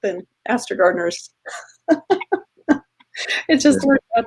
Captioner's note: laughing